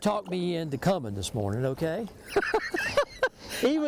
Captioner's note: laughs